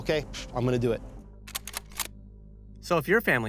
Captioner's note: gun clip reloading